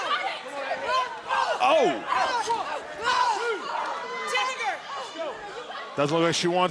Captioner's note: shouting